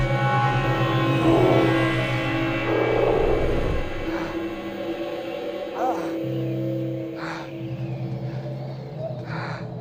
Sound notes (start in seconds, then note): 4.2 Sinclair gasping; 4.2 wind whistling